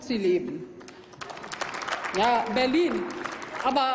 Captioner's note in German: Applaus